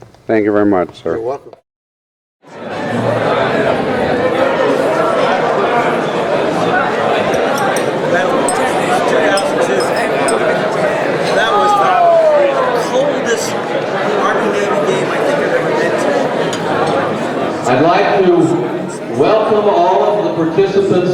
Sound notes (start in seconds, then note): 2.1 crowd chatter overlapping